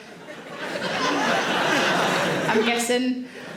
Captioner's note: audience laughing